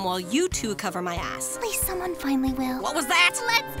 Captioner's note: quietly